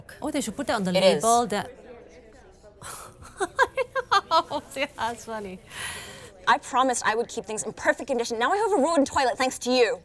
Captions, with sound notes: < Well, they should put that on the label- > It is. [SCOFFS, LAUGHS] That's funny. I promised I would keep things in perfect condition. Now I have a ruined toilet, thanks to you.